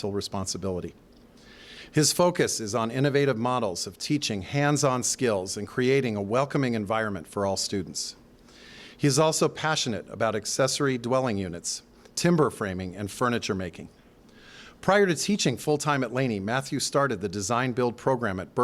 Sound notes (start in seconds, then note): none